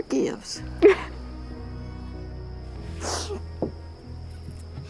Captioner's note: sobbing